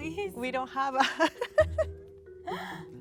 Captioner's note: laughs